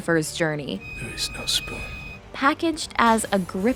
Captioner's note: solemnly